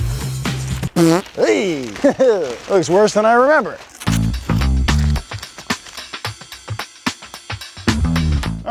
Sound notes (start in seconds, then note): 0.6 fart noise; 1.5 chuckling